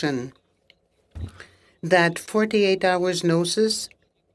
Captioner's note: speaking French